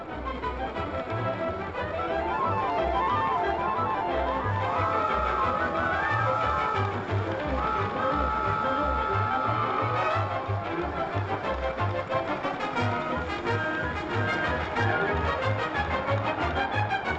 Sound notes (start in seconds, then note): 4.4 train Whistle Blowing; 8.2 whistle Continues